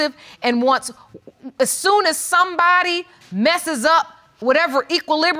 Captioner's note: stammers